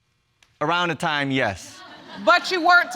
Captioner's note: audience laughs